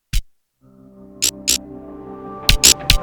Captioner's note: electric pulsing